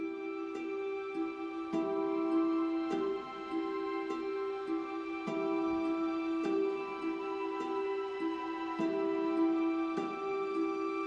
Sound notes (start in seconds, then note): none